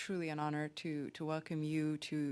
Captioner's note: speaking French